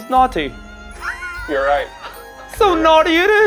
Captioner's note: wheezing